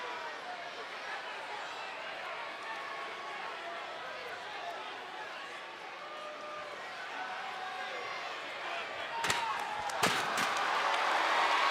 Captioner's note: applause